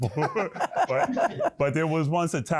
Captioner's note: laughter